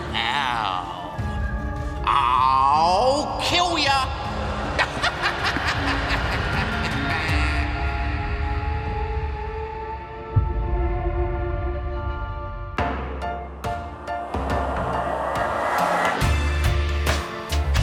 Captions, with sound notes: well... I'll kill ya! [laughs]